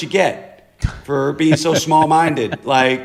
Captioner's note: laughter